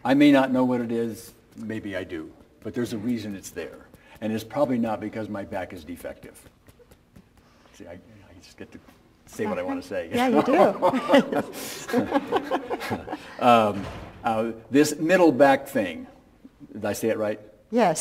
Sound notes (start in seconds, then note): 10.1 laughing